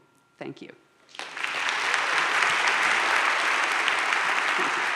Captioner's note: audience claps